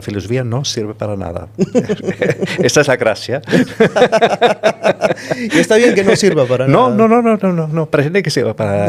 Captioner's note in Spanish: risas